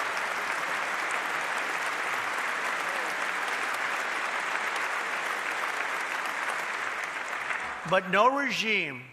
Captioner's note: applause